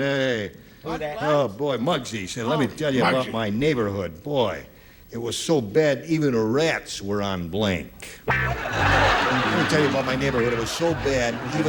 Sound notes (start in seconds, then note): 8.4 laughter